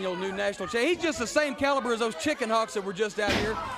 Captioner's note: crowd chatter